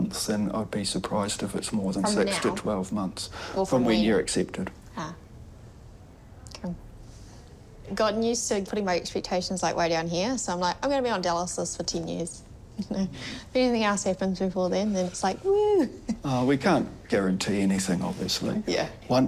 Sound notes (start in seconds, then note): 12.8 chuckles; 16.0 chuckles